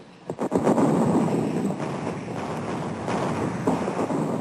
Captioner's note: artillery firing